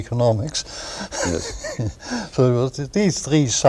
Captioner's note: laughter